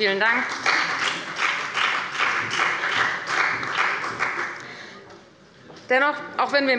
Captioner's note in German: Beifall bei der FDP und dem BÜNDNIS 90/DIE GRÜNEN